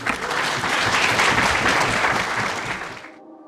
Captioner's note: applause